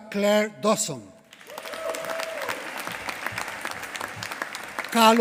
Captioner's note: applause